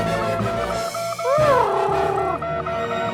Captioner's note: Huti hoots; dramatic music